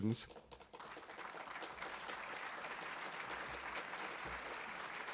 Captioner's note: audience applauding